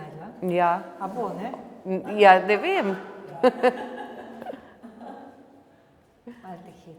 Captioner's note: laughter